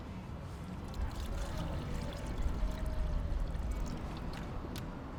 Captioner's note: liquid pouring